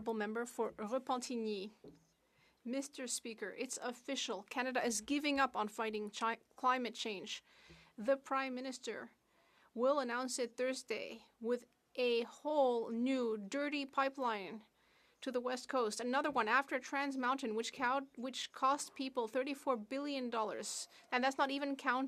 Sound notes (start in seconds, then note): 5.0 speaking French